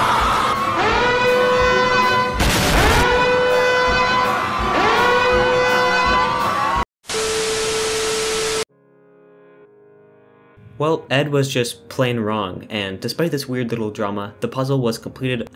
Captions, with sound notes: [EXPLOSION] [TV Static] Well, Ed was just plain wrong and despite this weird little drama, the puzzle was completed